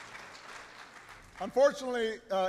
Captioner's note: applause